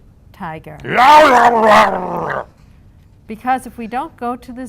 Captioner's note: makes tiger noise